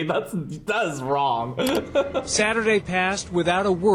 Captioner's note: laughs